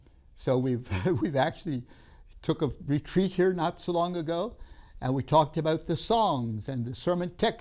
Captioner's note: laughs